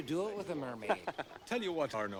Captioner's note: laughing